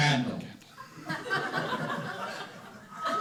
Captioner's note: audience laughing